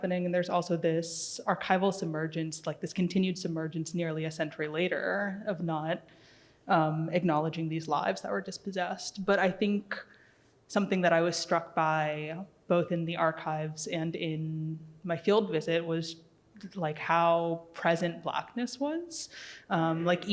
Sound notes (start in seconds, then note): none